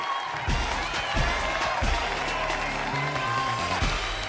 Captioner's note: applause, theme music